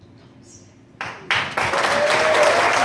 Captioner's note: audience clapping